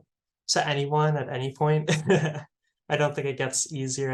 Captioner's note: laughs